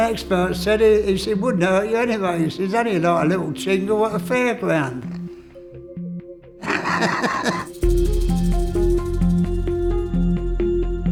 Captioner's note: laughs